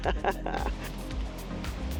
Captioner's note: laughs